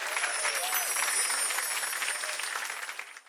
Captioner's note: chimes